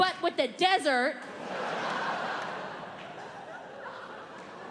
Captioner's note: audience laughing